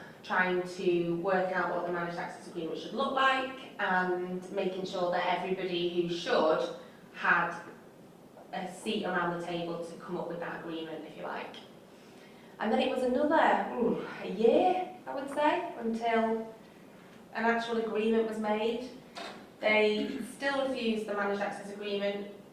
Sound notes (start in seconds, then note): 11.9 exhales